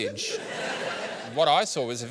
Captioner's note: laughter